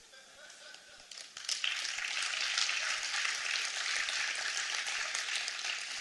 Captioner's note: applause